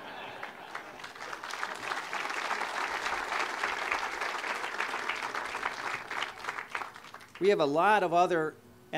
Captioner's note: audience laughter; audience applause